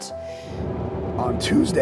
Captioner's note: wind blowing